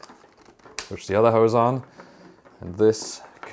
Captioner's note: hose click